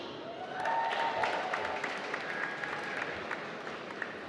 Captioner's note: applause